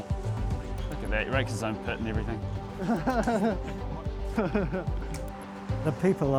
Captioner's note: laughs